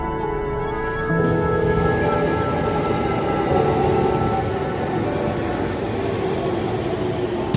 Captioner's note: the hustle and bustle of a train station